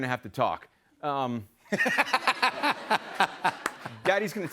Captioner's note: laughter